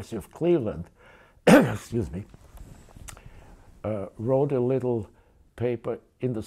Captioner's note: coughs